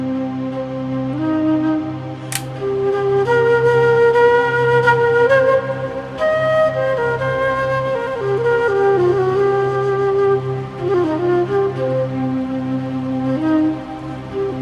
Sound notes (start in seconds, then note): 2.3 projector clicks softly; 4.3 solemn flute music